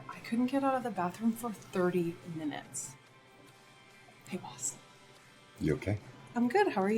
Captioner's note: none